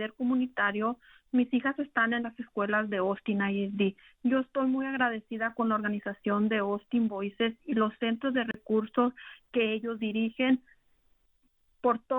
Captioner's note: speaking spanish